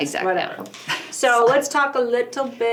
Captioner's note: laughing